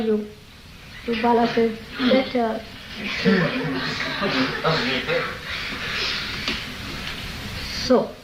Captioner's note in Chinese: 用猶豫的聲音說